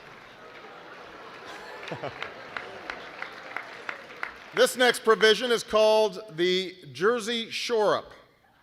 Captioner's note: laughter